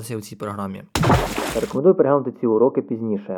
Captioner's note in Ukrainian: звук води